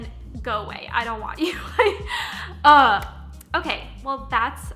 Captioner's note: chuckles